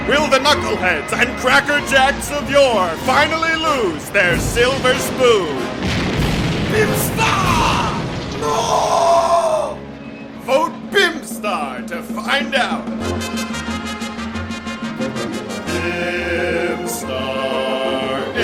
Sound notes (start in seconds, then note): 5.6 sound of explosion